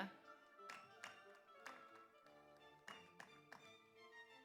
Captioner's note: audience applauds